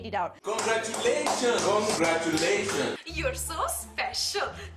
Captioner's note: clapping